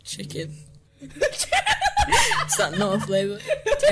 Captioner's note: laughs in indonesian